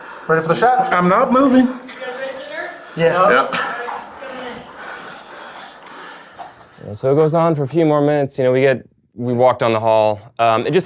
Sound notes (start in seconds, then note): 5.1 heavy breathing